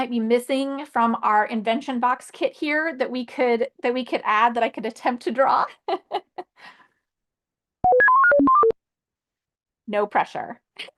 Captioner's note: beeping sound